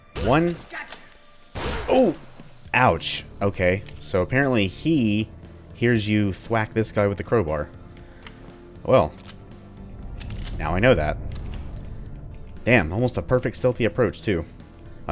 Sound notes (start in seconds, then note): 1.6 gunshot, pained grunt, THWACK; 1.6 thwack